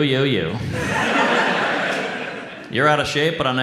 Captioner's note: audience laughs